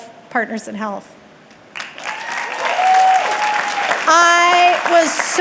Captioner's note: audience clapping and cheering